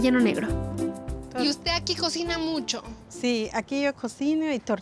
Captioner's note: speaking Spanish